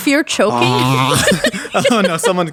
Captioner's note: both laughing